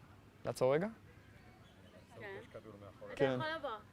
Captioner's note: hebrew